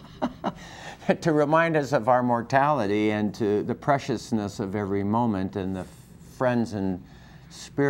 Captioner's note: laughter